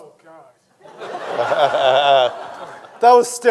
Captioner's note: everyone laughing